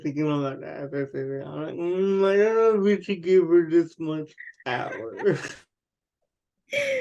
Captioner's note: laughs